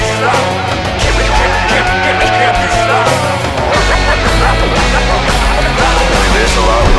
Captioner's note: crew clamoring